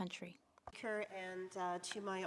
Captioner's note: speaking French